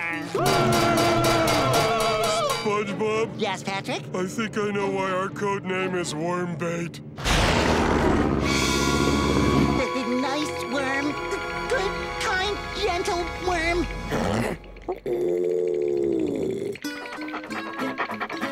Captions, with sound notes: [screeching, banging] - SpongeBob. - Yes, Patrick? I think I know why our code name is worm bait. [growling] Nice worm. Good, kind, gentle worm. Ooh. [panting]